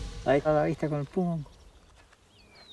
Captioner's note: speaking Spanish